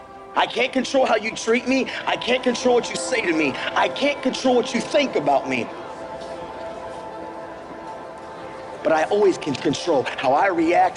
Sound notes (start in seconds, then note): 8.2 indistinct chatter